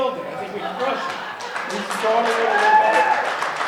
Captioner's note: audience clapping and cheering